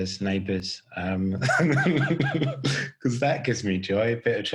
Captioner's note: laughing